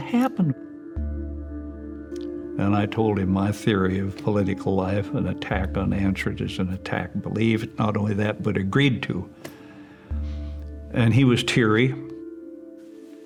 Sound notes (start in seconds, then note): none